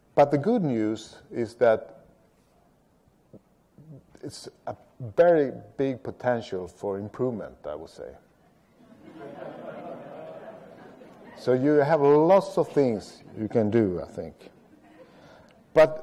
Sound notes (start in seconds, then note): 8.7 people restless